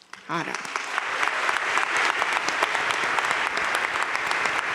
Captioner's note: crowd applauding